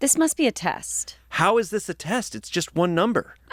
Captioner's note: none